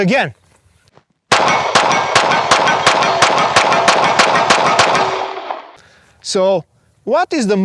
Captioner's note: pistol firing rapidly; steel plates clanging